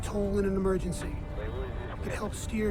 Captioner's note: man speaking in foreign language